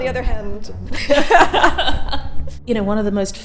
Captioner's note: laugh